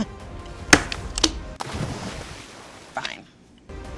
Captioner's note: bangs table